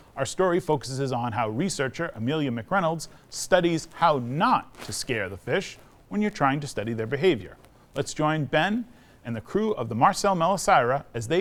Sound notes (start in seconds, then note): none